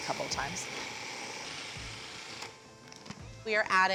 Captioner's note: whirring